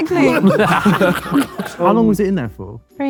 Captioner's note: group laughing